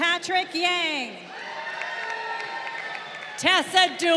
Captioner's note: crowd cheering